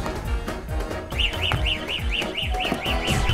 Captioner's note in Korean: 삐익 삐익